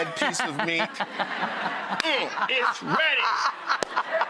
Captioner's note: audience and Rachael laughing